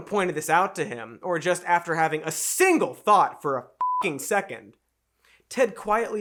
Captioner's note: beeps